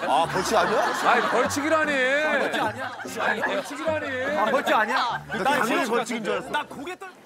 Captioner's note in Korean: ㅋㅋ